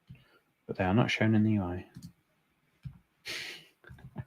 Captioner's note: chuckles